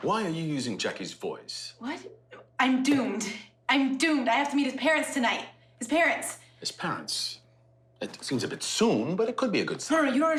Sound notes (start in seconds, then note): none